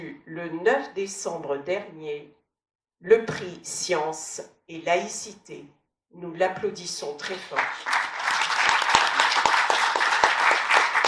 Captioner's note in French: applaudissements